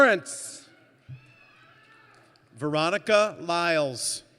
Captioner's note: none